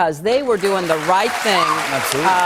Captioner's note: cheers and applause